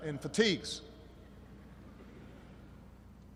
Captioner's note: laughter